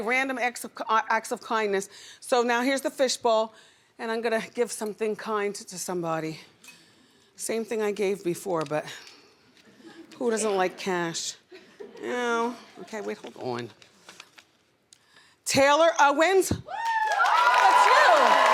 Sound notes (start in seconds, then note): 6.6 glass clinking; 11.9 audience laughs; 16.7 audience applauds and cheers